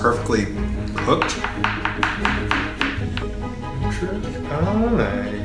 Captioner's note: tapping; upbeat music